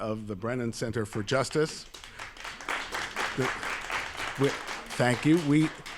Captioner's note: applause